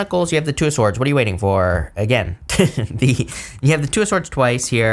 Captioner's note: laughs